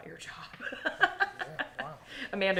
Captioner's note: laughing